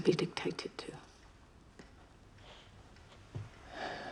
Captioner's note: sighs